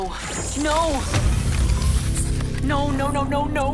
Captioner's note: magical buzzing